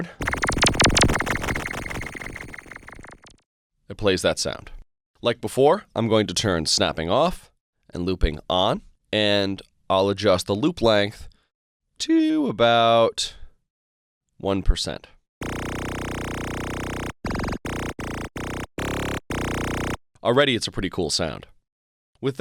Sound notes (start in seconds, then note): 0.0 electronic sound; 15.4 electronic sound